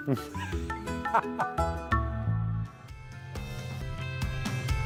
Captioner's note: laughter